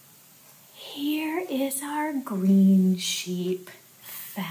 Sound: gasp

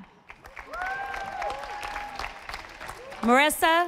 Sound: audience applauding

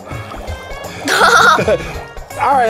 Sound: bubbling; both chuckle

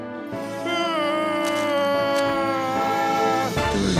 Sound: Patrick groaning

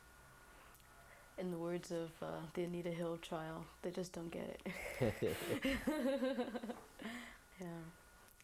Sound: both laugh

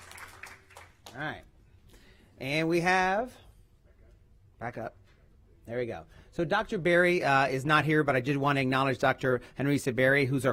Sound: applause

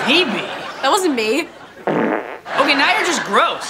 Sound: farting

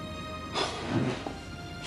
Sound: gasps

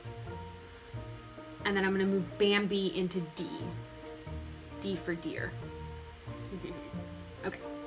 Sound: chuckles

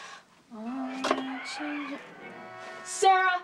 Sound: TV chattering

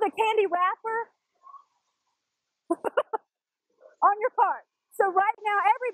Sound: laugh

